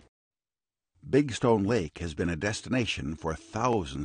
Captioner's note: voiceover